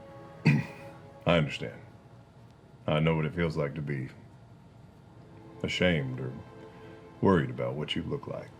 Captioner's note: clears throat